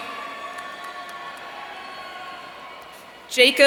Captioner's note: audience cheering